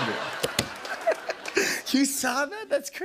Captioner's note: laughter